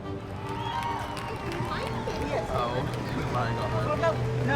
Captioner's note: crowd cheers